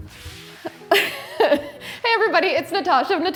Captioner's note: laughing